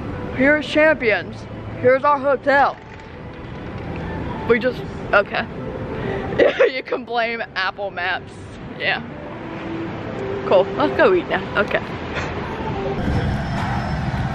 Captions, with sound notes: Here is Champions, here is our hotel. We just... OK. (LAUGHS) You can blame Apple Maps, yeah. Cool, let's go eat now, OK.